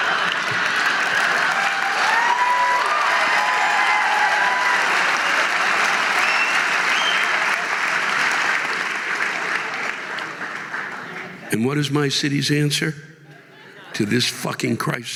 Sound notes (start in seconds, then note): 2.8 audience laughing and applauding